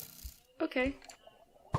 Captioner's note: quietly